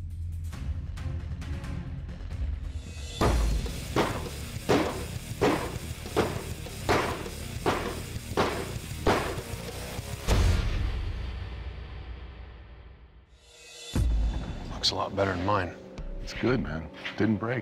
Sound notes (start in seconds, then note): 0.1 suspenseful music; 3.3 knife whacking